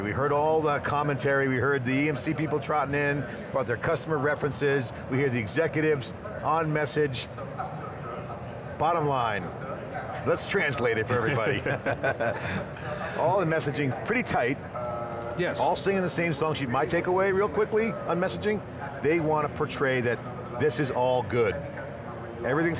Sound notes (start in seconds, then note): 11.0 laughing